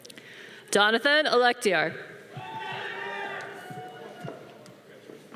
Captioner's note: audience cheering